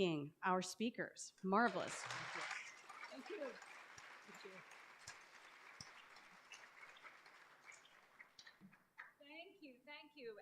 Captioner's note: applause